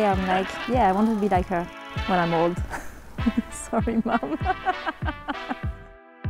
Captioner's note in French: rigole